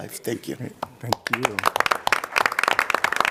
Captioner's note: applause